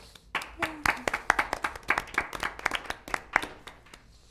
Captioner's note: applause